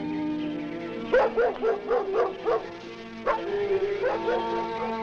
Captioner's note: dog barking